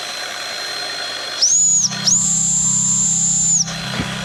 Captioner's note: whistle